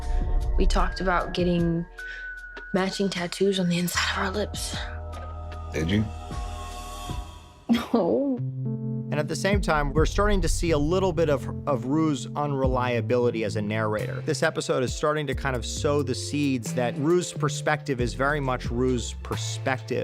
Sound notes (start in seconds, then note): 7.7 chuckles